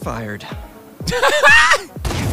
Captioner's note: laughing